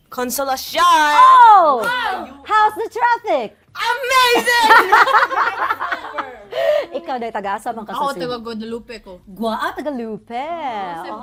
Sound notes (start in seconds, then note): 4.5 laughter